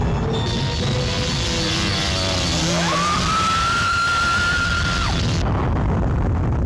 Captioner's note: wasps buzzing; wasps shrieking